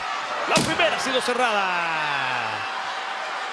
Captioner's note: door stlams